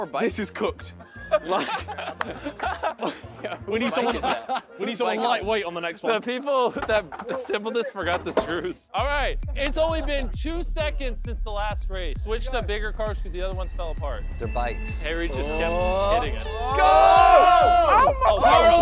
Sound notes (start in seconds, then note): 1.0 contestants laughing; 16.5 timer going off